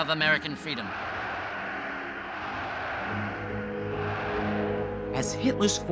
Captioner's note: crowd shouting